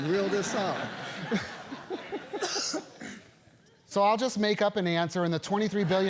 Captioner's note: laugh